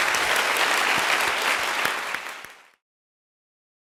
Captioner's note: applause